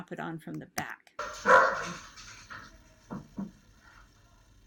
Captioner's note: dog barks